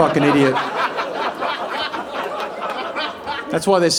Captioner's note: audience laughing